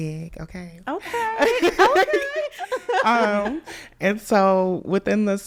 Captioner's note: laughs